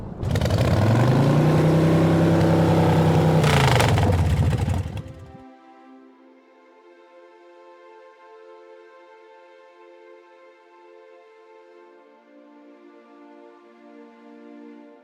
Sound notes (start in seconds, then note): 4.0 motorcycle engine cuts off; 7.7 sad music